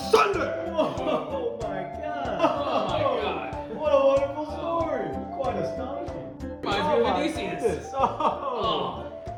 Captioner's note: impressed cheers